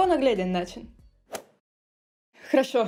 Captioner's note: Russian